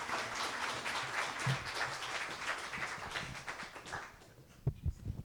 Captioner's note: applause